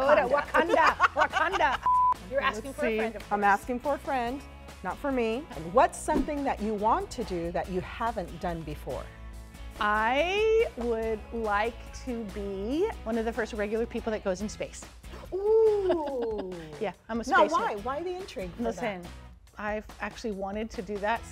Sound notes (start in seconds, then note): 0.0 laughs; 1.8 beeping noise; 15.6 laughs